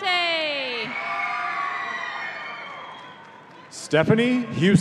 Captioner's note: audience cheering